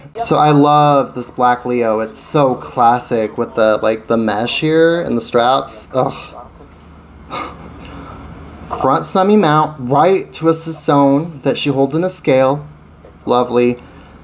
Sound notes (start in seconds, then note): 7.2 chuckles